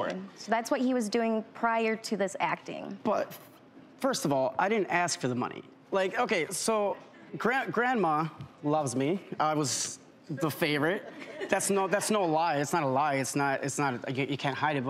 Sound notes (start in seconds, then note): 10.8 audience laughs